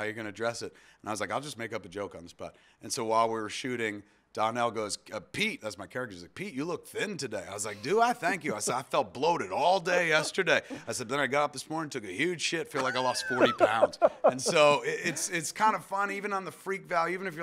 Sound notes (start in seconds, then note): 12.8 laughs